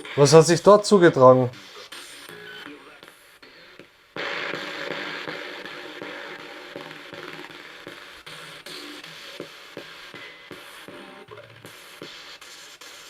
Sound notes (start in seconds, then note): 2.3 sound of the Spirit Box in the background